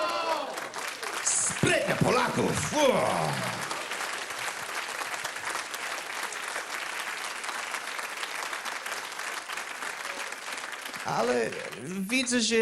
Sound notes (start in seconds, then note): 4.2 applause